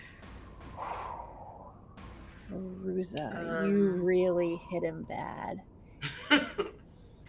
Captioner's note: sighs; chuckles